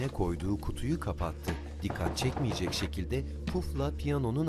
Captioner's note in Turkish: Kapı vurma sesi